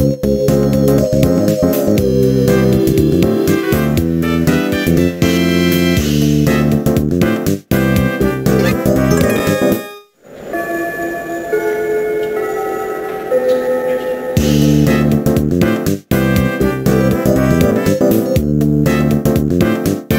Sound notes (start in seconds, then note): 9.0 ding-dong, ding-dong